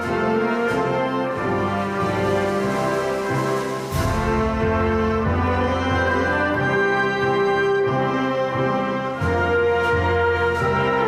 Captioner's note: applause